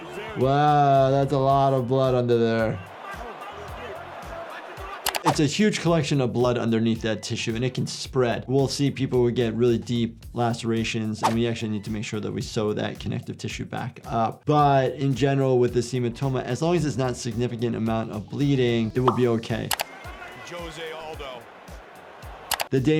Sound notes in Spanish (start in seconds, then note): 2.7 la audiencia aplaude